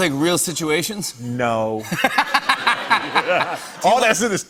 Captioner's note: laughter